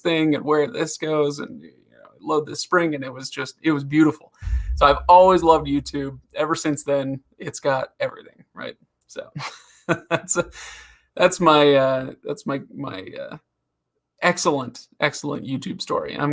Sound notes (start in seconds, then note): 11.3 laughs